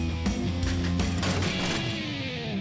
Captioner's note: crash